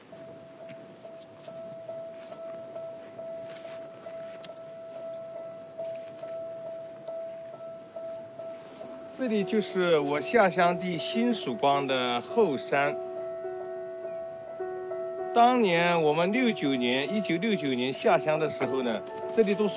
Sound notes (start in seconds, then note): 0.2 gentle dramatic music; 9.3 speaks in Chinese language